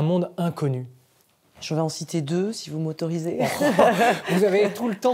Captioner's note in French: rires